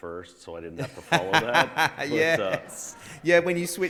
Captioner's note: all laughs